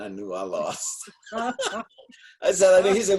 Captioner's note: laughing